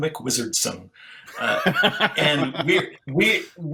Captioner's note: laughs